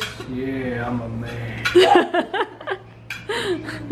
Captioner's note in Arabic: يضحك